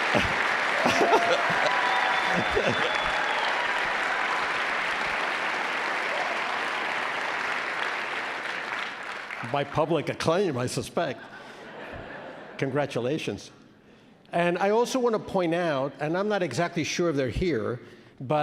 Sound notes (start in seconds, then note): 0.0 laughs